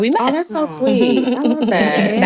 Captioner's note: chuckling